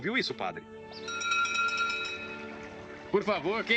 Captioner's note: door bell ringing